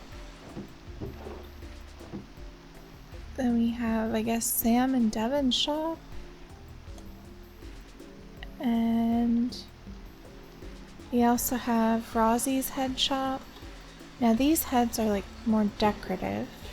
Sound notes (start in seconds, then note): none